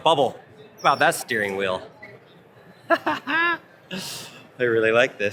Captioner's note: laughs